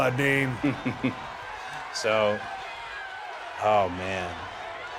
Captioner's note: Cody chuckles